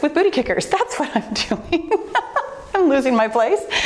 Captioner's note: laughing